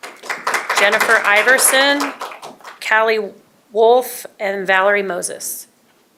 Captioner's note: applause